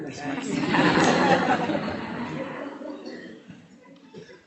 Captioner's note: audience laughing